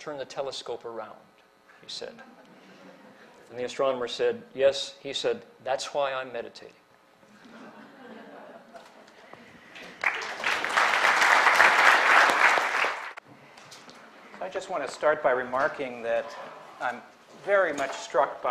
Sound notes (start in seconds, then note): 7.2 laughter; 9.7 applause